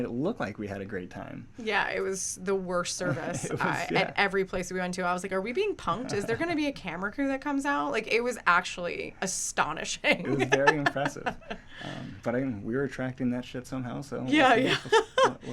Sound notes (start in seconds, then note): 10.2 laughs